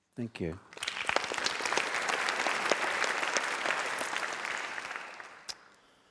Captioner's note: applause